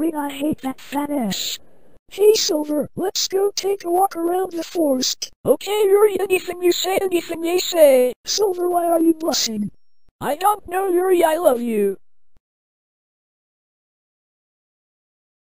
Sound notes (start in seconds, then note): none